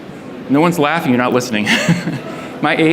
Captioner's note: laughs